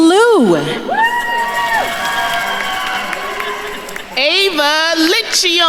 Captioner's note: attendees cheering and applauding